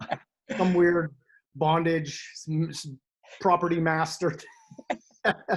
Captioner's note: laughs; laughs